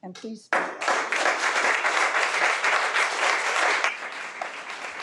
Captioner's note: audience applauds